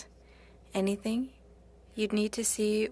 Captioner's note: speaking French